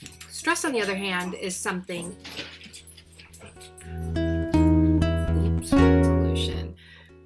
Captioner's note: dogs running around in the background